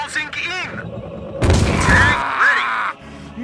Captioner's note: boom